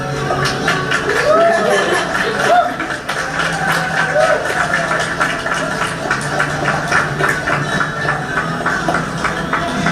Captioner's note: applause